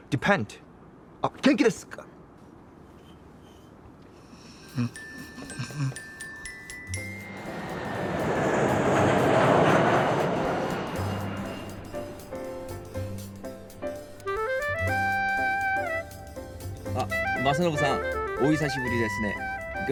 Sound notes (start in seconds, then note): 7.0 jet engine roaring; 12.6 upbeat music